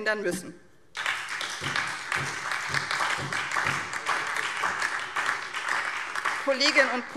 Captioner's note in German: Beifall SPD und DIE LINKE